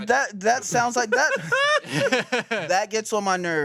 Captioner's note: everyone laughs